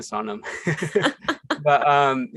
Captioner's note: both laugh